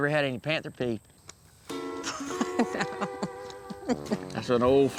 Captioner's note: laughing